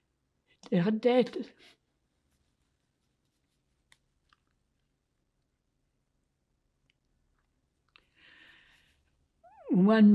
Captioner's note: pauses 8 seconds